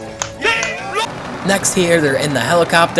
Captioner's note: players clapping